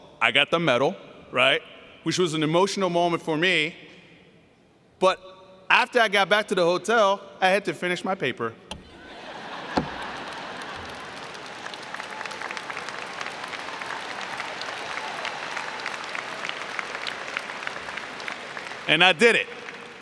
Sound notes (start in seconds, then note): 9.0 laughter; 11.8 cheering and Applause